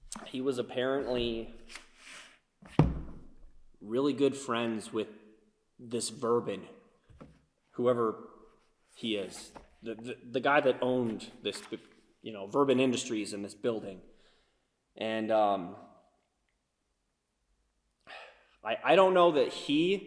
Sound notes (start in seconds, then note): none